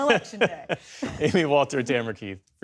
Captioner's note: laughter